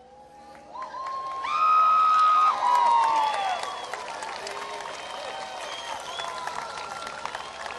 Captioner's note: applause